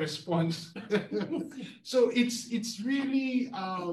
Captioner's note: all chuckles